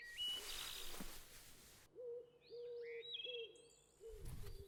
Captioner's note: birds chirping